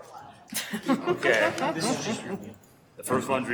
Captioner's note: laughing